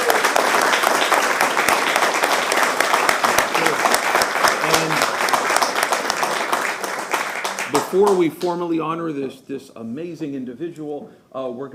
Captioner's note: applause